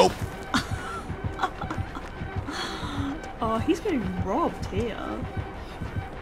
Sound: laughs

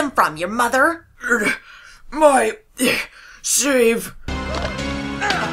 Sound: grunt

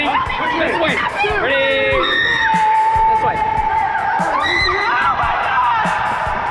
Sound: screaming

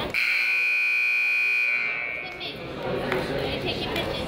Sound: buzzer honks

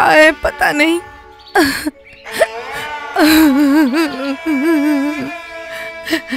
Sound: crying

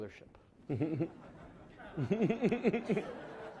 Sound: laughing

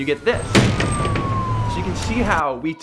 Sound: city sounds with sirens and skateboard hitting the ground

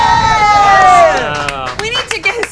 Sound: applauds

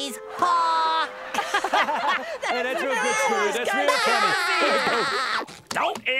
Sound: laughing

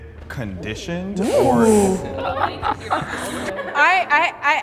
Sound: participants exclaiming

